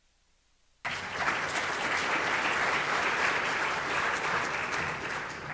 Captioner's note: audience applauding